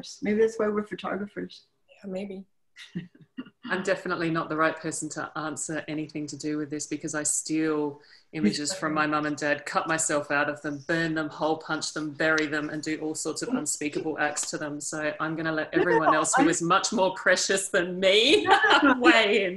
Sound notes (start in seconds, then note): 2.8 laughs